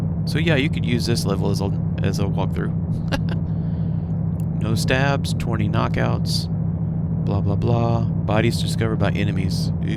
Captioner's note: laughs